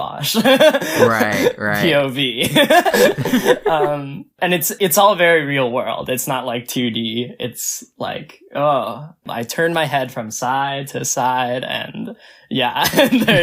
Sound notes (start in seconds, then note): 0.7 laughs; 2.4 both laugh; 12.4 both laugh